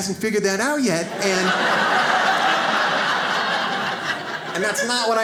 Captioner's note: audience laughs